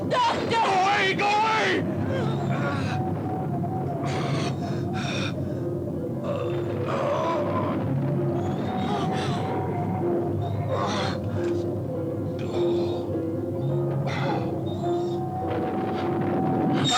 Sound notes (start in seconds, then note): 2.6 Nemek groaning; 7.0 thunder rumbles; 12.7 cart wheels creaking